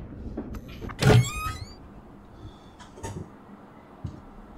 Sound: creaking

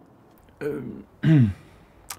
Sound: throat clearing

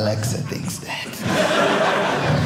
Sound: audience laughing

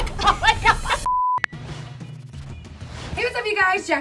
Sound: beep

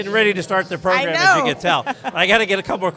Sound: laughs

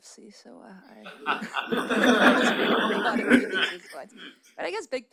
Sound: audience laughs

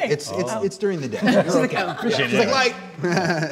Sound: laughter

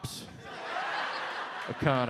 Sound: audielaughs

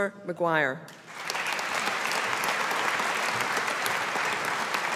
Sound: audience applauding

